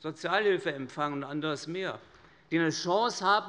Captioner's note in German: none